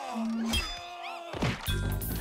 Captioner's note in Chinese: 吭!